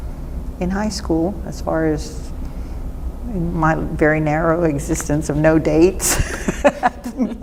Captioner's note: laughs